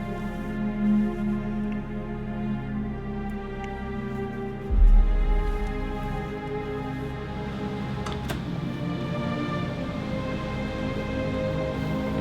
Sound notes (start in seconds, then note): 7.2 wind howling